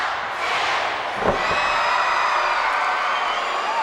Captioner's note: cheers